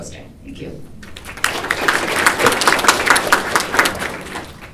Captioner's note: applause